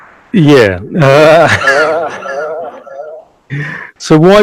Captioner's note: laughs loudly